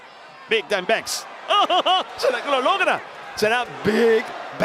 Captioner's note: laugh